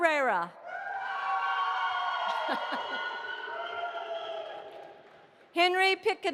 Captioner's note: audience applauding and cheering